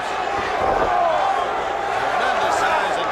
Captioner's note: crowd chatter